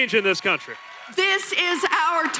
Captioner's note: cheering and applause